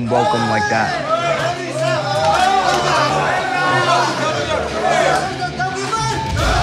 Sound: everyone cheering in a chant; speaking foreign language and shouting

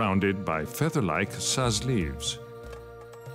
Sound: speaks French

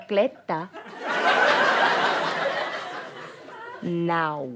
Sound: audience laughter

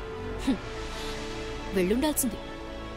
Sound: sighs

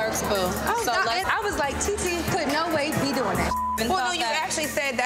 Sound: beep

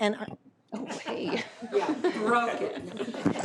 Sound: laughs

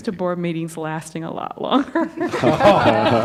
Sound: laughter

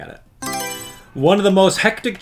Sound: Mario Selection Sound

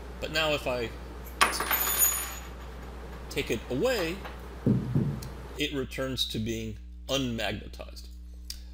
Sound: metal Clinking

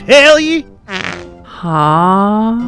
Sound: man farts

